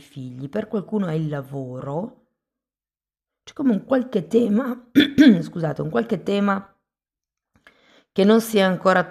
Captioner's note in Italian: schiarire la voce